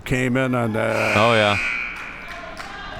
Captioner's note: buzzer sounding